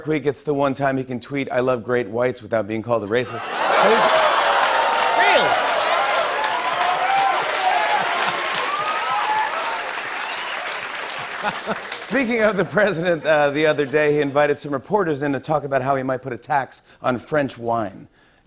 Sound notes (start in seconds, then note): 4.0 audience "oh"s; 6.1 laughter and applause